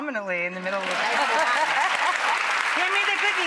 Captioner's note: audience applause